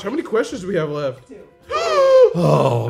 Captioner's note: all gasping